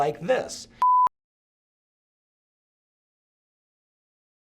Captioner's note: computer beep